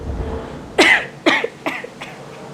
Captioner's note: cough, cough